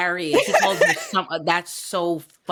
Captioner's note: laughing